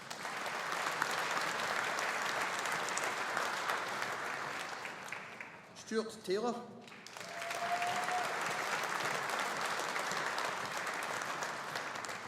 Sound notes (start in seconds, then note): 0.0 audience applauding; 6.8 audience applauding